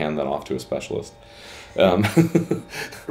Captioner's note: laughs